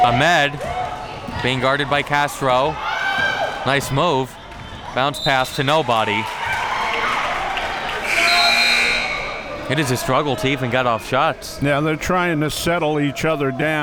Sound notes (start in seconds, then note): 6.6 crowd cheering; 8.0 buzzer blaring